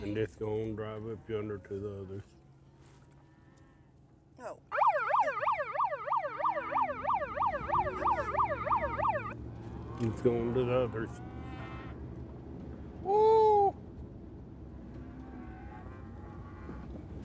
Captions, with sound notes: - And just going drive up under to the others. (cows lowing) - Oh. (alarm ringing) - It's going to the others. (cows lowing) Woo.